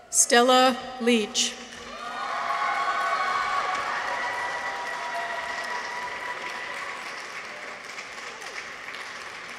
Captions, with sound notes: Stella Leach. -(people cheer) -(audience applauds)